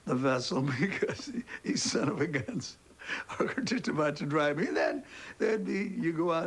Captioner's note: laughing